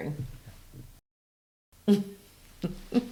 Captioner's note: chuckles